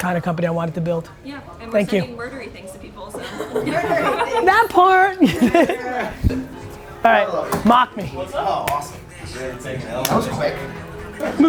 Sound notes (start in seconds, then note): 3.1 group laughter; 5.6 laughs